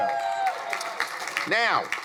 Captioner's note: crowd applauding